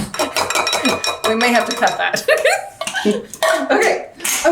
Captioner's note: laughing